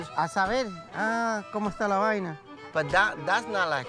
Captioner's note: speaking Spanish